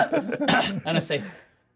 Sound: co-hosts laughing

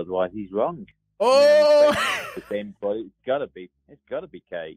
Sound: chuckles

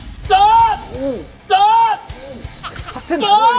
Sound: groaning

